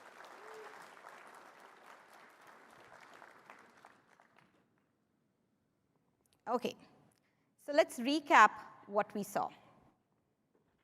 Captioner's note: applause